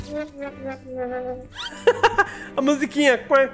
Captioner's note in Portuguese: Risos